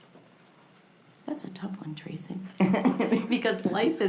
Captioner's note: laughs